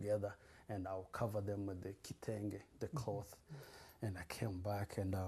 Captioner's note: non-english